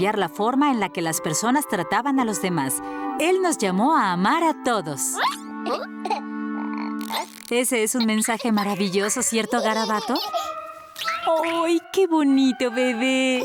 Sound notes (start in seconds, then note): 6.6 baby babbling; 9.7 baby laughing; 13.2 baby laughing